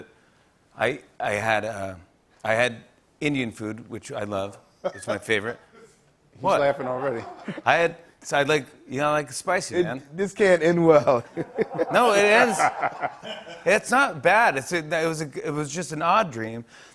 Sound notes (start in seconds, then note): 6.5 laughs; 11.2 laughter